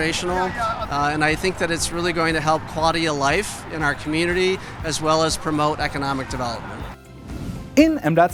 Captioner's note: swoosh SFX